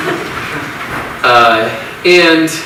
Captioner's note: audience laughs